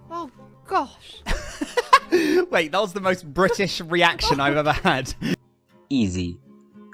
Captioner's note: laughing